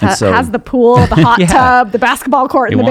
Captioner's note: chuckling